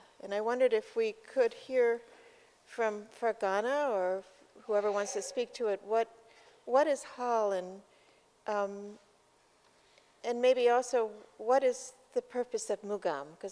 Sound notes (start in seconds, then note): 8.2 non-english